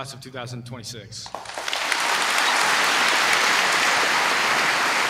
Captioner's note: applause